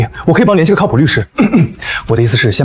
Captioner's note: coughing